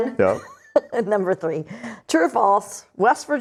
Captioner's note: laughs